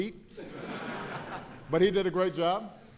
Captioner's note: laughter